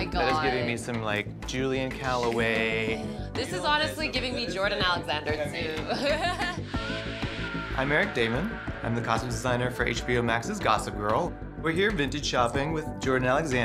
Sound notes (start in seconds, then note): 5.8 chuckles